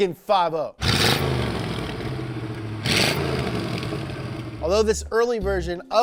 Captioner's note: car engine revving